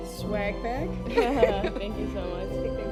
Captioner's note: laughs